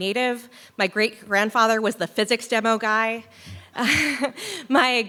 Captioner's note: laughs